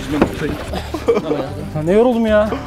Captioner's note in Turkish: Gülüşmeler